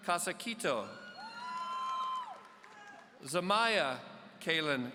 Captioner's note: audience cheering